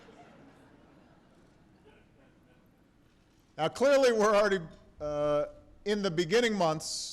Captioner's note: laughter